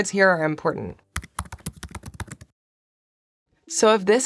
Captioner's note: keyboard clacking